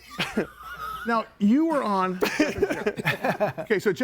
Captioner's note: group laughs